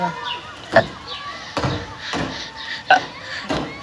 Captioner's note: burp